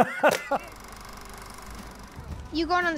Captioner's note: laughs; film reeling